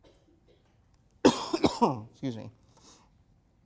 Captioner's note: coughs